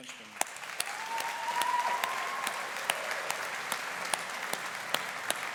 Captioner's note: audience applauding and cheering